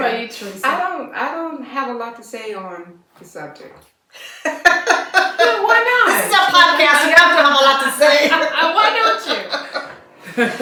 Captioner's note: laughter